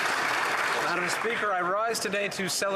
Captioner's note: applause